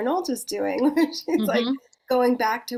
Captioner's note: chuckles